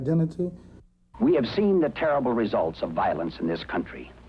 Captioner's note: voiceover